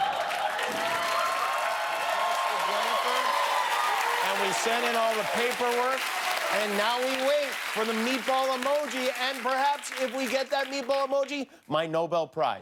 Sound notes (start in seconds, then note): 4.6 cheers and applause